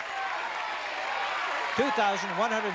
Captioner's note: chatter